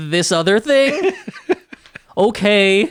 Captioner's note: laughing